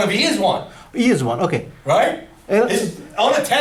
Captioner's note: voiceover